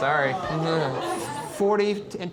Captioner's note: laughs